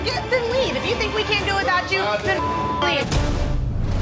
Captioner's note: beep